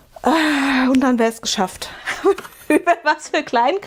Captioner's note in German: gelächter